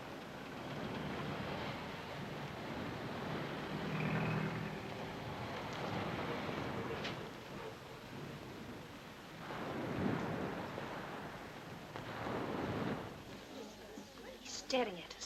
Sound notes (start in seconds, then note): 6.4 traffic rumbling